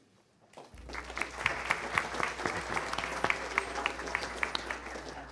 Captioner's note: attendees applauding